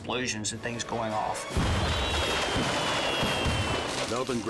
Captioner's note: fireworks exploding